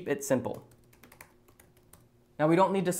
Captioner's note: keyboard clacking